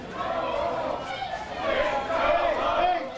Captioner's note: crowd chanting